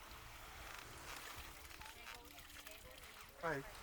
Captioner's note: water splashing